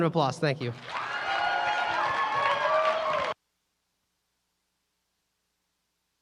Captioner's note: applause